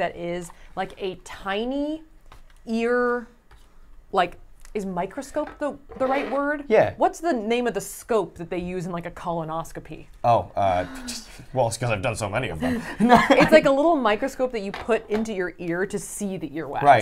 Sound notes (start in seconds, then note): 10.8 laughs; 12.6 chuckles